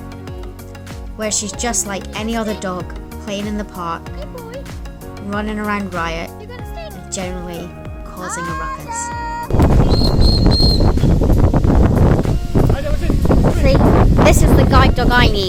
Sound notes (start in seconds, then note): 4.2 silly laughter; 6.2 laughs